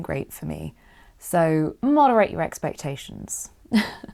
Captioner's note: chuckles